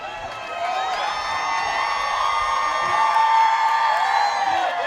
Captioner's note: cheering